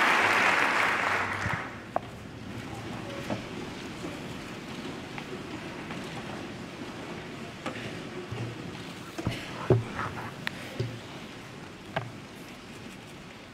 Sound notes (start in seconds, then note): 0.0 applause